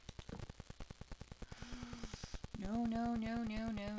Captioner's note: intake of breath